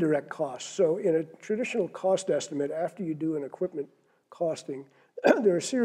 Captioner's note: cough